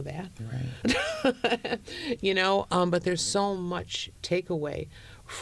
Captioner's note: laughter